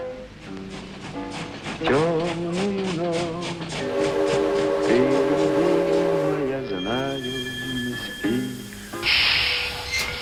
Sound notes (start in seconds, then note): 0.5 train rattling and whistles; 2.0 singing in foreign language